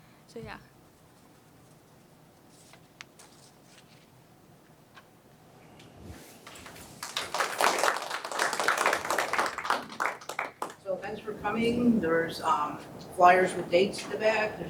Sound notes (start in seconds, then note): 4.9 applause